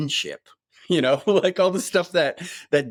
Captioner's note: chuckling